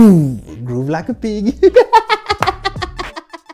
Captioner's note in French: rires